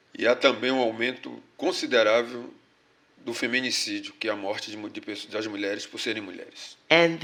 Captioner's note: speaking portuguese